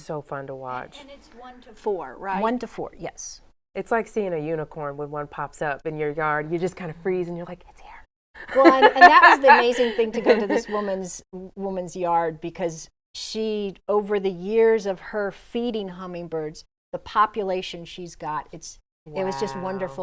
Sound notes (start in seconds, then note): 8.4 laughs